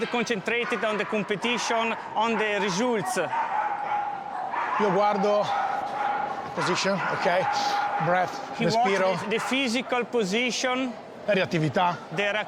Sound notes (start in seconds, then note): 4.9 speaking in mixed Italian and English; 11.6 speaks in Italian